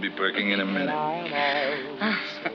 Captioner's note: chuckles